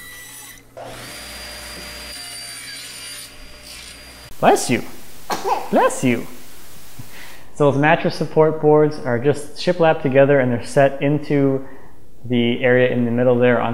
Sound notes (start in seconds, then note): 0.0 saw buzzing; 5.2 sneezes